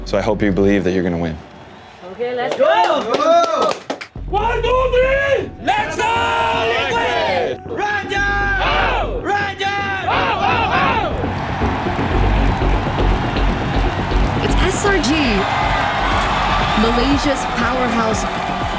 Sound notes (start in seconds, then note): 0.7 applauds; 4.9 thrilling music playing; 10.4 crowd cheering, applauding